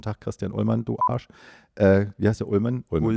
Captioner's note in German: peep